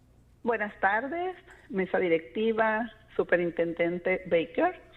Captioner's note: speaking Spanish